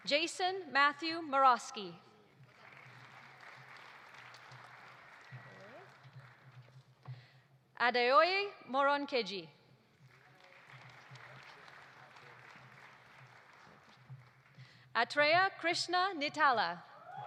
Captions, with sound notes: Jason Matthew Morawski. (audience applauding) Adeoye Moronkeji. (audience applauding) Atreya Krishna Nittala.